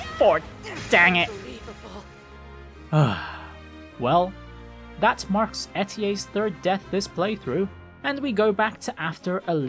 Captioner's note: sigh